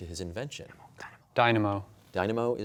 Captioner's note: whispering